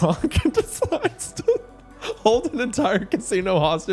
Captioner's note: laughing